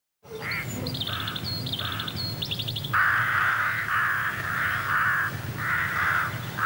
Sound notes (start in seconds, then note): 0.2 birds singing; 2.8 crows cawing